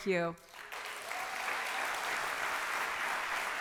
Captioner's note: applauding